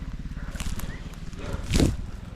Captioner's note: whistles